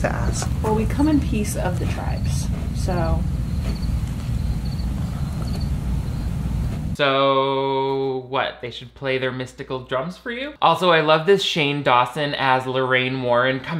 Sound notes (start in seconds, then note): none